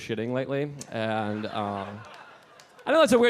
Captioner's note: audience laughing